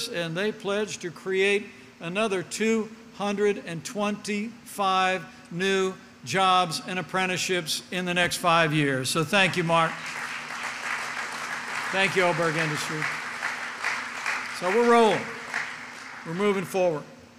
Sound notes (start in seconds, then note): 9.5 applause